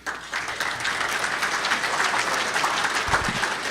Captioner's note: applause